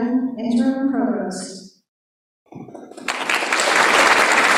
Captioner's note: applause